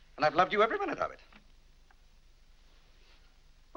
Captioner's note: none